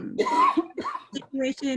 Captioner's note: coughing